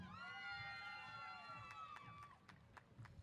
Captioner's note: applause & Cheers